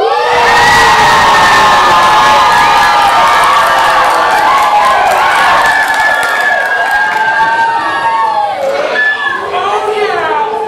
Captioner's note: audience cheering